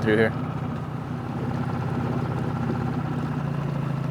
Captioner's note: motor burbling